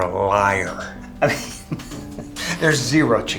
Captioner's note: laughs